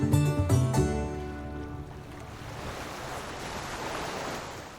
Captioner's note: waves lapping